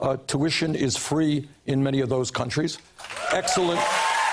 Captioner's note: cheers and applause